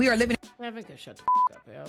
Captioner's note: beep